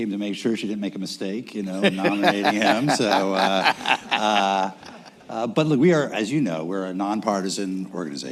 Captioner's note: laughter